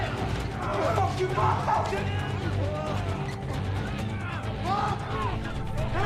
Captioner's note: residents shouting